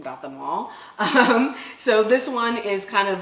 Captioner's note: laughing